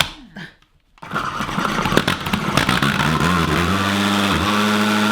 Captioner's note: slowly grinding; loud grinding